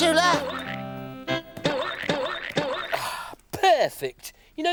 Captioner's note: hammer banging